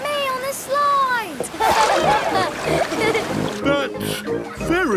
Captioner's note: laughing